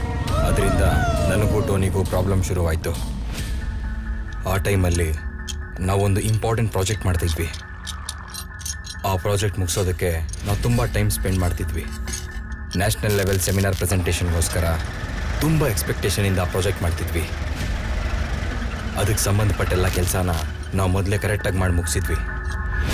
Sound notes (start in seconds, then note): 7.0 tools Sound; 17.7 engine Starts